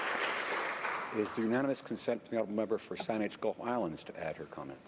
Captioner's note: applause